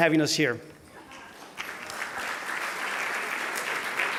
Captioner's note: applause